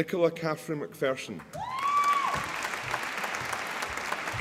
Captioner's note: applause